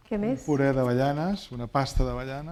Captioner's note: speaking spanish